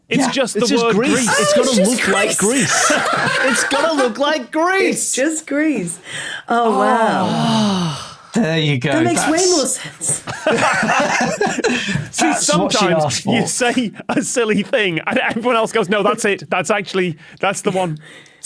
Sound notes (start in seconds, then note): 1.0 laughs uproariously; 10.0 group laughing